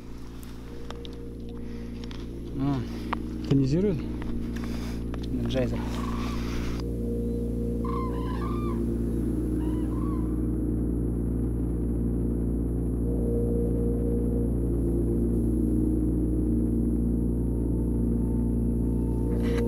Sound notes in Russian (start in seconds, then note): 7.4 крики журавлей